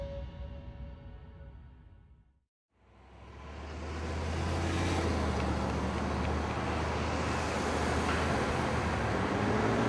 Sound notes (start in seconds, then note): 2.8 vehicles passing